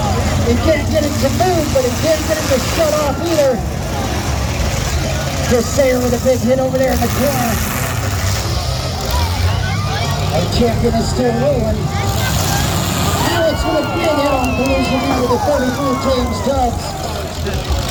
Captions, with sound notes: He can't get it to move, but he can't get it to shut off either. Chris Sayer with a big hit over there in the corner. *engines rev and crowd cheers* Our champion is still rolling. Alex with a big head on collision with the 33 of James Dobbs.